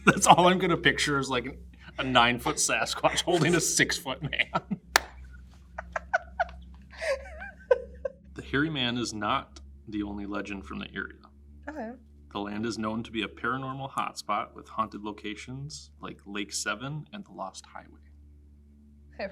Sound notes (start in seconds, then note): 5.0 laughs